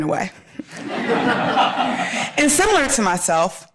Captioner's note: audience laughing